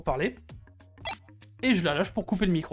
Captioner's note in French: Bip